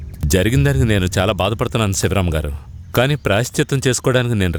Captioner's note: none